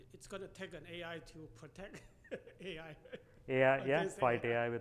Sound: laughs

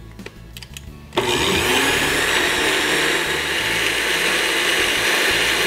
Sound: blender running noise

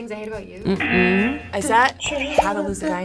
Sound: buzzer razzing

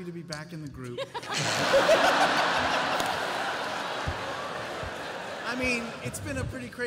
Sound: laughter

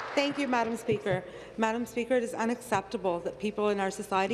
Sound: applause

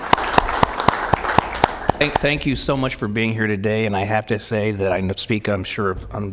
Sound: applause

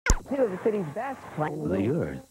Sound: audio burble

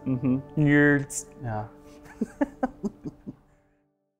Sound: laughs

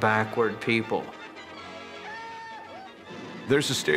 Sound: whooping

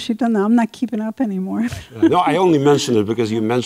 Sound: laughs

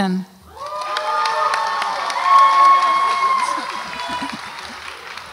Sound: audience applauds and cheers

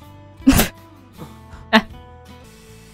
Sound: laughing

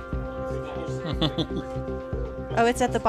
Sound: laughs

